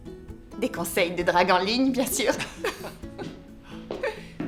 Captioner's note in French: rires